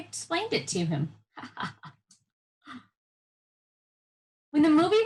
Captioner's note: laughing